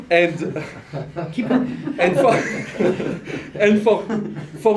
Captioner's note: laughter